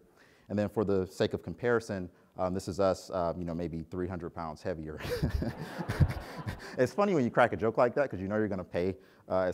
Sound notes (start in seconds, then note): 5.0 laughs; 5.0 audience laughs